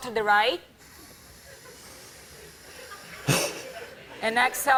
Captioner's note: breathing deeply